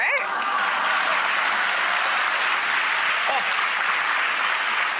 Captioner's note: audience clapping